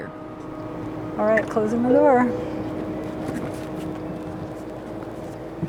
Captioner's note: car beeping